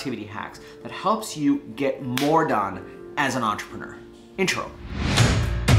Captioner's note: snapping; upbeat music